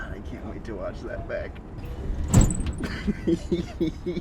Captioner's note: laughs